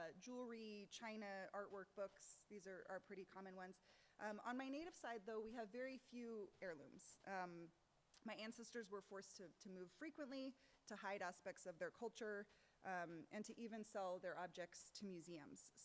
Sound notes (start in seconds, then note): none